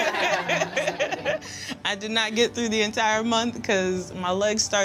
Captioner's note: laughter